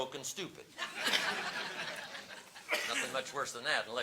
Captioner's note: audience laughing